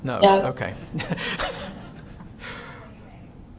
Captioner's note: laughs